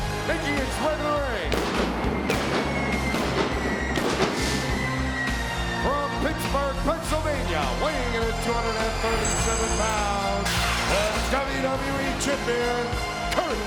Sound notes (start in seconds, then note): 1.5 pyro popping